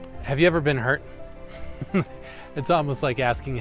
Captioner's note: chuckling